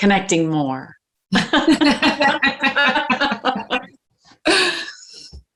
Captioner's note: both laughing